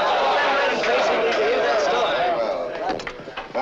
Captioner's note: shouts of encouragement